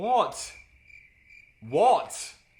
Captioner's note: crickets chirping